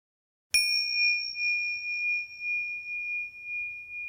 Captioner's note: bell chiming